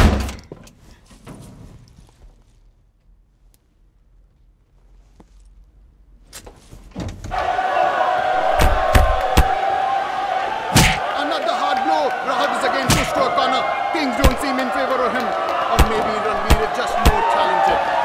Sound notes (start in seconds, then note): 0.2 cupboard door opens; 6.7 cupboard door closes; 8.6 boxing punch